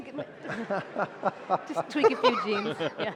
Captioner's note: laughter